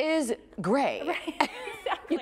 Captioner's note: laughs